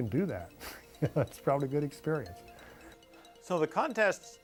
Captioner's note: laughter